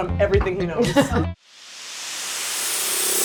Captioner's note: chuckling; upbeat techno music